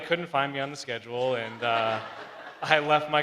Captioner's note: crowd laughs